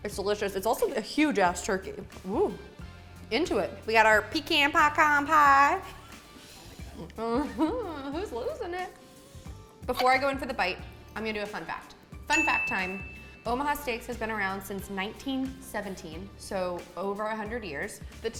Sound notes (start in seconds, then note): 5.8 laughs; 12.3 ding